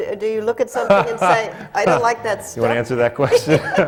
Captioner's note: laughs